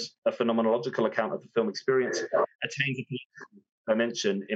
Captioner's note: speaks faintly